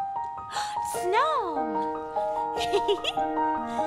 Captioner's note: gasps; Anna laughs